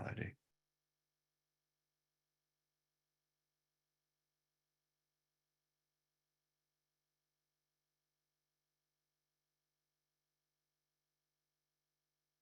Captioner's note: silence